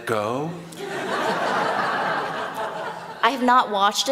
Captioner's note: laughter